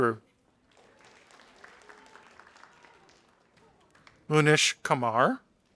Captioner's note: audience applauding